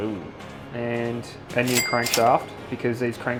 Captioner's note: cash register dings